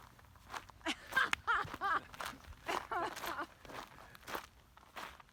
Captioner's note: distant laughing